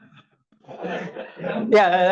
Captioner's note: audience laughs